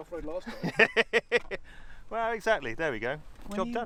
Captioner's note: laughs